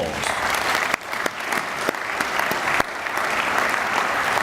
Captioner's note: audience applauding